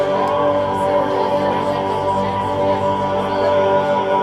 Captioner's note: crowd chattering fades